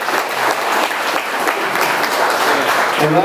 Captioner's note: audience continues applauding